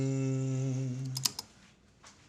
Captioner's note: cliques do teclado